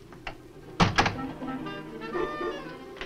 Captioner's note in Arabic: موسيقى أوركسترالية مشوقة; يغلق الباب